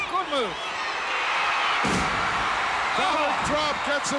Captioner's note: audience cheering